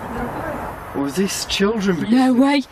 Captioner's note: disembodied Voice